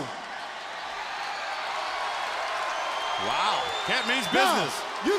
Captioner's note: crowd cheering